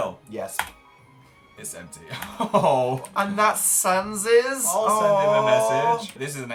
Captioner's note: laughs